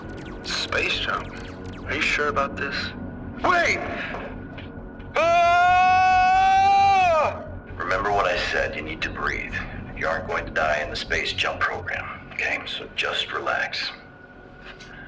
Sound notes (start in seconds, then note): 5.1 screaming